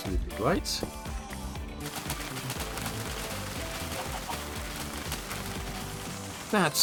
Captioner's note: harvesting noises